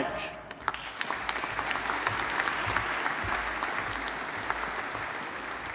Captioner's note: audience applauding